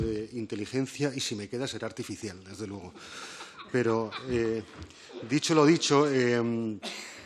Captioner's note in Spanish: Risas